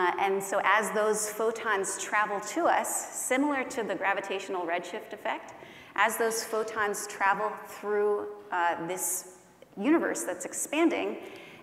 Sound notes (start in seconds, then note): none